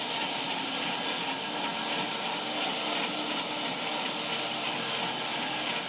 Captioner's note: saw buzzing continues